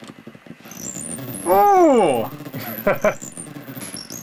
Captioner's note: laughs